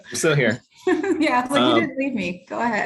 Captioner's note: chuckles